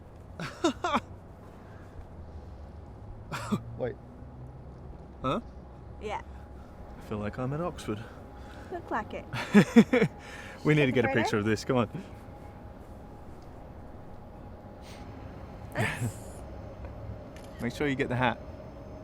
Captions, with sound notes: Ah-ha! (laughing) Wait. Eh? - Yeah. - I feel like I'm at Oxford. - You look like it. (laughing) - We need to get a picture of this, come on. (phone taking picture) Make sure you get the hat. - Okay.